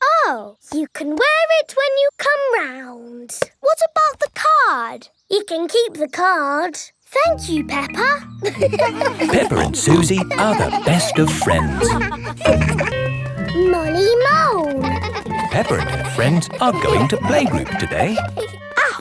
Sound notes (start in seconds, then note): 8.4 all laughing; 14.7 giggling